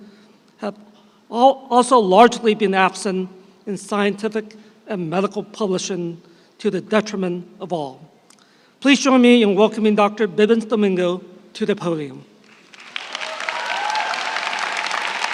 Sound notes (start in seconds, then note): 12.4 applause